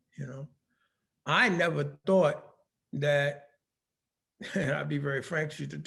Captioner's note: laughing